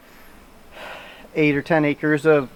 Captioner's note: breath